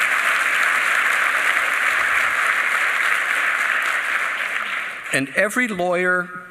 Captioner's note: applause